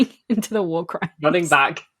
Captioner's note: laughing; laughs